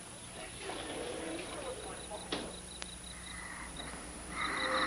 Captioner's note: background chattering; alien panting